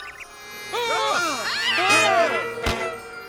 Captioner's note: birds chirp; people shout; bagpipes squeak